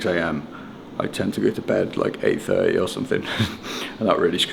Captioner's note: chuckles